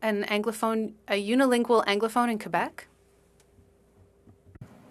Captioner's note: speaking French